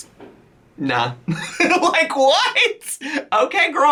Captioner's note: laughs